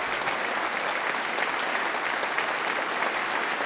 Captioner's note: applause